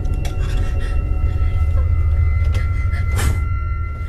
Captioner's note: woman whimpering; killer exhales sharply